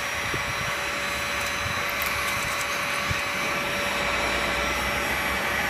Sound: white noise from heat gun

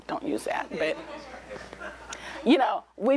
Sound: laughter

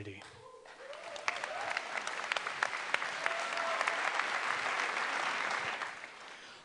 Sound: applause

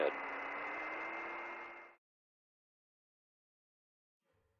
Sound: radio static ends

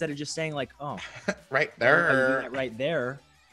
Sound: laugh

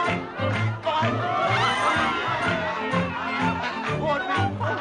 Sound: all cheer

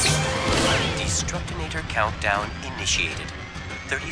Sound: male computer voice

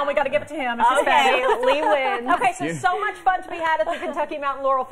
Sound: laughter

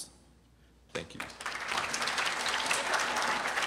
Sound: applause

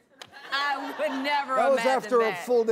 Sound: audience laughs

